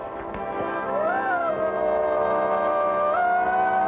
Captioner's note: wolf howling